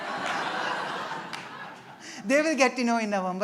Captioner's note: laughter